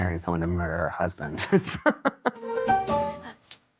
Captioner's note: laughs